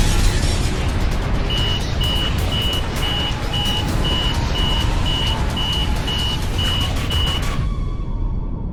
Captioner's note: system freezing